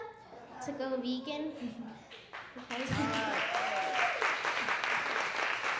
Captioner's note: audience applauding